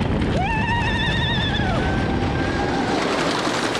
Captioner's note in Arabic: كلاهما يصرخان